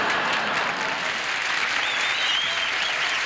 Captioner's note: audience laughing; audience applauding